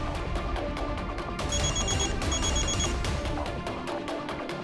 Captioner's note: phone ringing